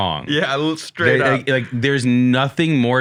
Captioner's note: laughs